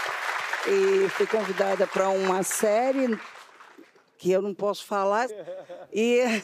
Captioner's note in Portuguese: aplausos